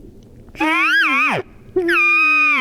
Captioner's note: shooter cow calling